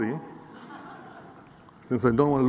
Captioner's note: laughter